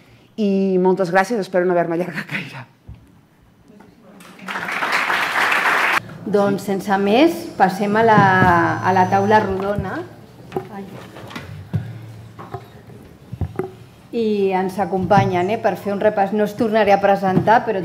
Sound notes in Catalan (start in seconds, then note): 4.2 Aplaudiments